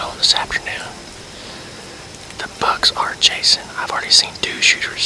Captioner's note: whispering